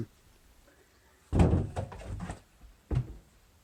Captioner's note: door scrape noise